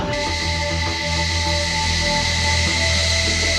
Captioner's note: plane noise